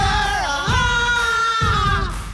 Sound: group groaning

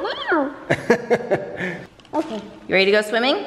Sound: dad laughing

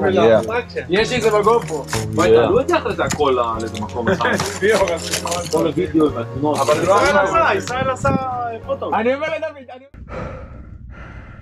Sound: chatter

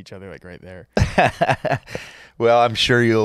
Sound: laughing

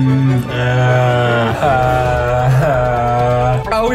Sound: whining

